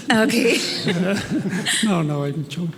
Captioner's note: laughs